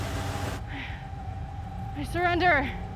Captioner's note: suspenseful music; breathes heavily